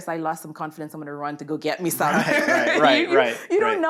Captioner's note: laughs